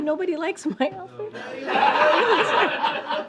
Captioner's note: laughter